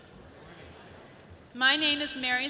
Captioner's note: audience chattering